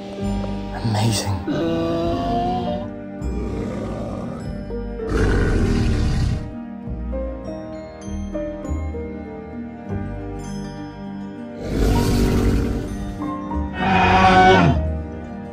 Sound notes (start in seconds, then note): 2.6 Triceratops gently grunting and screeching; 15.2 inspiring music playing